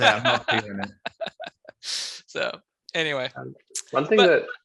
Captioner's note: laughing